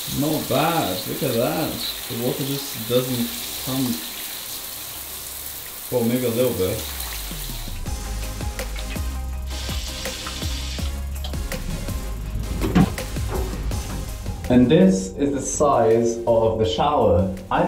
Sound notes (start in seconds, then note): 7.2 electronic pop music; 8.6 water trickles; 11.5 loud rustling